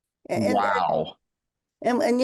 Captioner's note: Dolores laughs